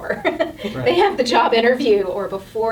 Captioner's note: laughing